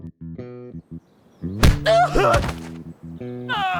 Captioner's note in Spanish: Golpe, Giovanni chilla